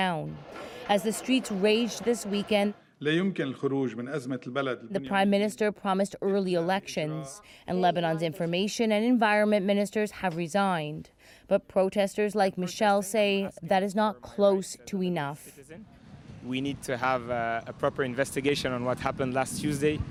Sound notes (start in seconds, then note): 4.2 speaking Foreign Language